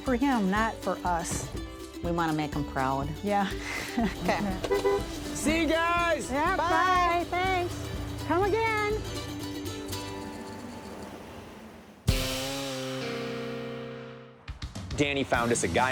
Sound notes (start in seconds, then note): 8.2 honks horn